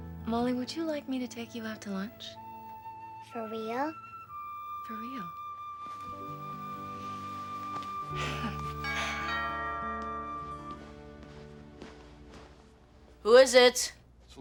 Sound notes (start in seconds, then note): 8.7 doorbell ringing